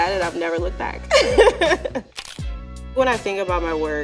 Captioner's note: laughing